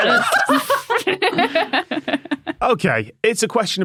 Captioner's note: laugh